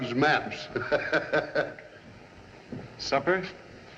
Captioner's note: O'Matthews Laughs